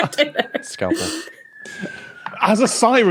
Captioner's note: laugh; distant siren